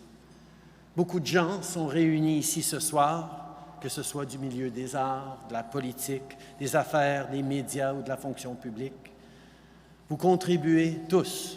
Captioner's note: speaking French